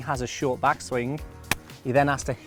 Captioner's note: hitting sound on hands